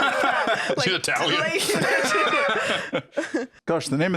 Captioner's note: laughs